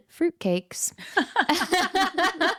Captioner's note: both laughing